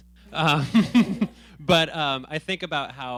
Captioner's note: laughing